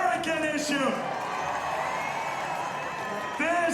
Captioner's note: audience cheering